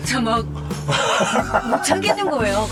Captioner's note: trying to hold back the tears